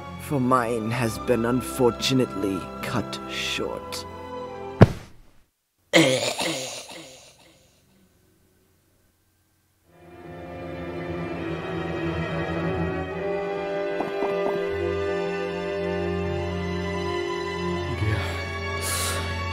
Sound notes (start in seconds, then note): 4.8 thud; 14.0 normal footsteps again